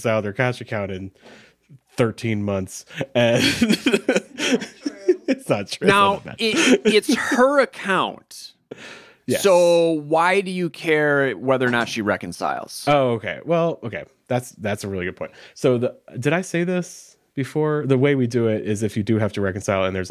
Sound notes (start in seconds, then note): 2.9 laughing